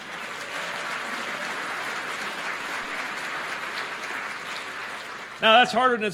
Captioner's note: applause